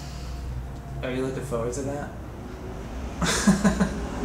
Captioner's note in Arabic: ضحكة مكتومة